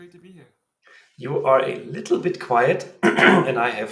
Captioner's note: clears throat